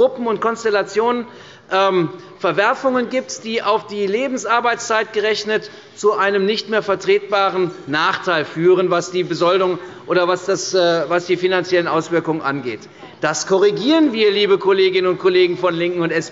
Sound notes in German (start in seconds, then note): none